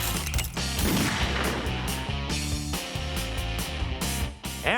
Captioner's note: gunshot